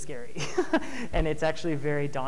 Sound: chuckles

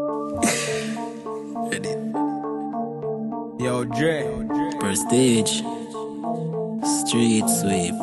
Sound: laugh

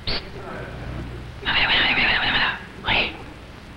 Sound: man whispers

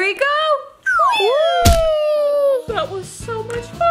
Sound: doll sliding

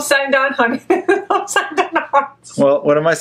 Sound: laughs

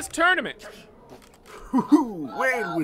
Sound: CASH chuckles

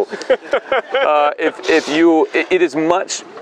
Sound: laughs

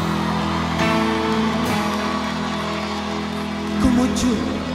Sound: aplausos

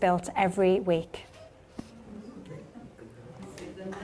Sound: audience murmurs, titters

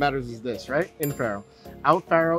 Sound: bell dings

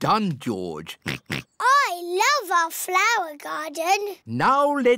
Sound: oinks

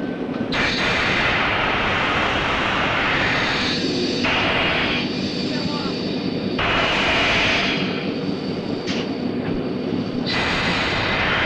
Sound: sound of the train moving

